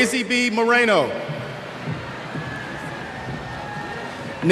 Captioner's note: cheers